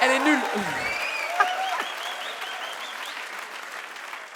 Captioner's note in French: le public applaudit, sifflements